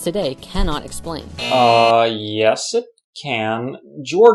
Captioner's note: buzz